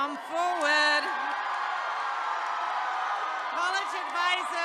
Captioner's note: attendees cheering